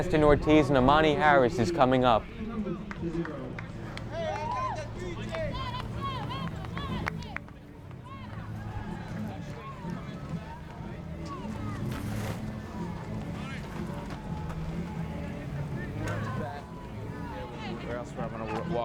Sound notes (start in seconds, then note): 4.9 fans yelling